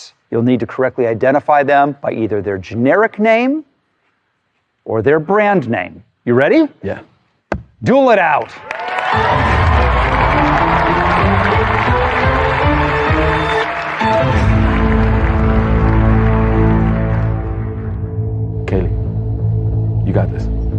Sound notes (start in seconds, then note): 8.9 cheering and applause; 8.9 dramatic music